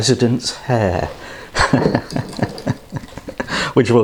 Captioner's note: laughs